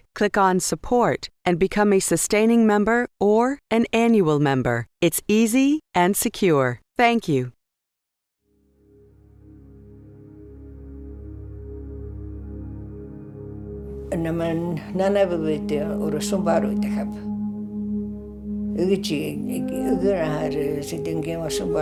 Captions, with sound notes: click on support and become a sustaining member, or an annual member. It's easy and secure. Thank you. (speaking in foreign language) (slow tranquil music)